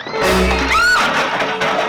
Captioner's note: scream